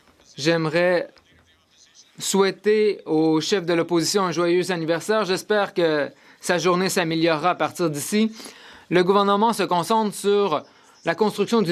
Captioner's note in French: voix de l'interprète